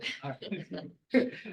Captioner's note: laughter